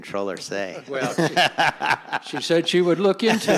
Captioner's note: chuckling